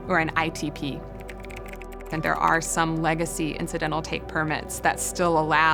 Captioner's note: typing sounds